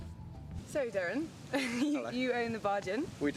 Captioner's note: laughs